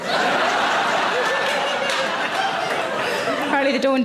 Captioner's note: audience laughing